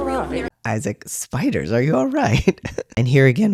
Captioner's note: laugh